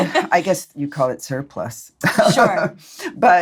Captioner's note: laughs